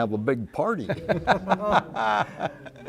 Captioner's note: laughter